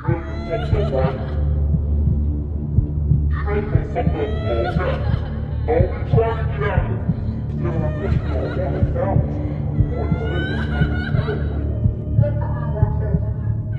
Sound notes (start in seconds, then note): 0.2 girl cries; 1.2 heart beating; 5.0 person shouting